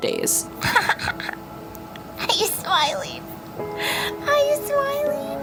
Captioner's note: laughs